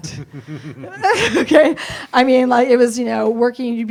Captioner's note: laughs